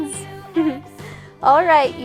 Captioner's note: laughs